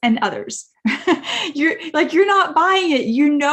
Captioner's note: speaker laughing